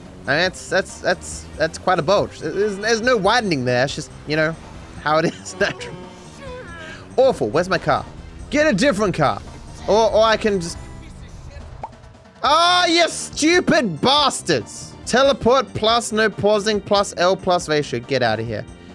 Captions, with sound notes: I mean that's, that's, that's, that's quite a bulge. There's no widening there. You know how it is naturally [Laughs] Awful. Where's my car? Get a different car. Or I can just... Oh, you stupid bastards. ‘Teleport’ plus ‘no pausing’ plus ‘L’ plus ‘Ratio’. Get outta here.